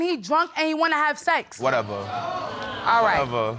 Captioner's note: audience exclaiming